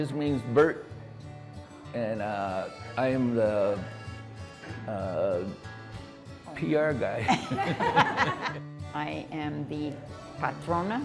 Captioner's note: laughter